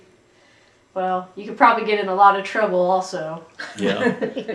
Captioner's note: laughter